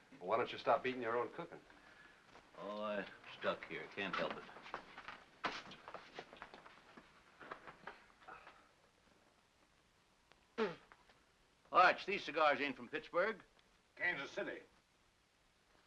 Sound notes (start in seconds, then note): 10.5 spits